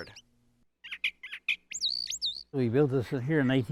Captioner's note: birds singing